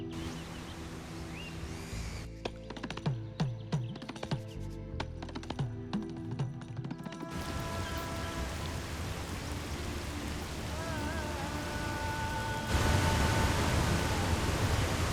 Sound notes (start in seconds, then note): 7.3 water rushing